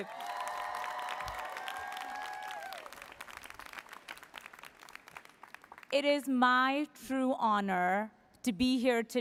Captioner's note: applause